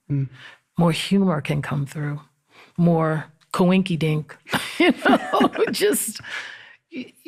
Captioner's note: laughs